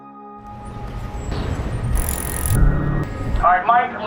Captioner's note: wind rushing